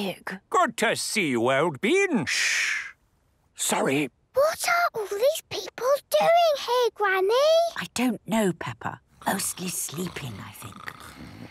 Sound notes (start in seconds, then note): 2.9 whispering; 4.3 quietly